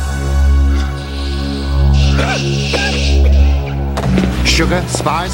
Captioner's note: tense instrumental music; smoke hissing; coughing